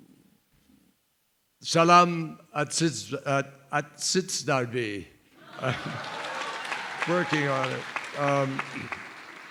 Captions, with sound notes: [SPEAKING KYRGYZ] [LAUGHTER] Working on it.